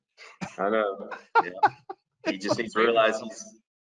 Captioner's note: laughs